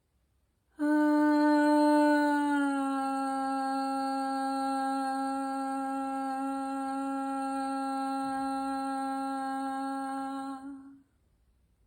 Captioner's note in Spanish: suspiro y tono